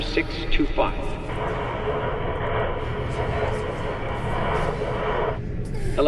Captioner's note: static